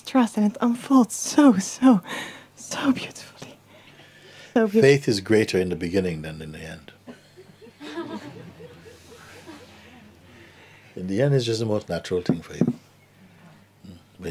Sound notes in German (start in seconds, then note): 9.9 Lachen